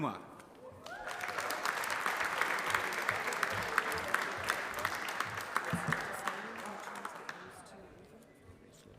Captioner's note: applause